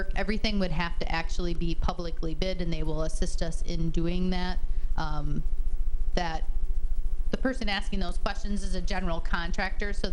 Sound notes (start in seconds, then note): none